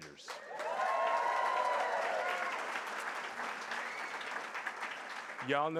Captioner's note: applause